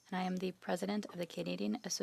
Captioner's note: speaking French